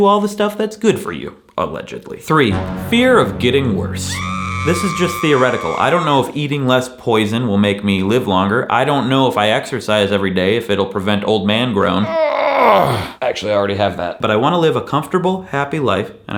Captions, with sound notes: all the stuff that's good for you, allegedly. (tense music) Three, fear of getting worse. (screaming) This is just theoretical. I don't know if eating less poison will make me live longer. I don't know, if I exercise every day, if it'll prevent old man groan. (groans) (sighs) Actually, I already have that. But I wanna live a comfortable, happy life,